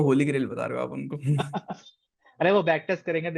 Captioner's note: laughs